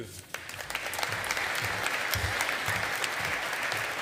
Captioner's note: audience applauding